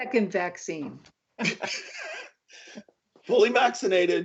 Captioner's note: laughter